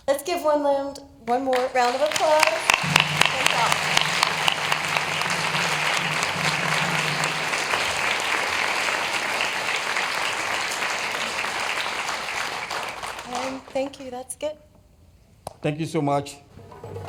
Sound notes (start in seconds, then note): 1.2 applause